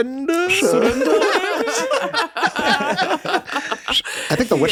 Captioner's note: everyone laughs